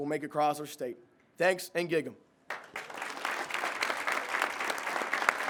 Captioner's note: crowd claps